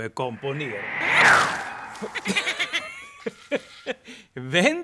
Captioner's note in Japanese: 突風とトロルの笑い